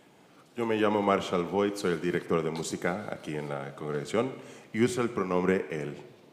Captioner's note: church member speaking in Spanish